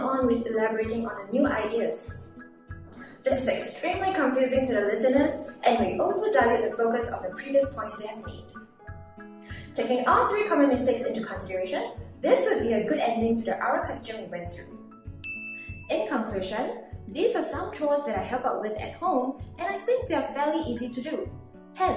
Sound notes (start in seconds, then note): 15.2 bell rings